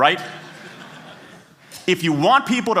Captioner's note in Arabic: ضحك